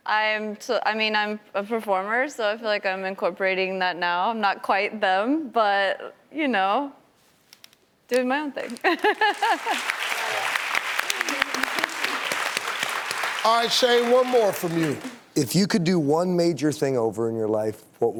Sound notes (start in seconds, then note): 8.7 laughs; 9.2 clapping